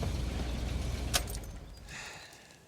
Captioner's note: car engine off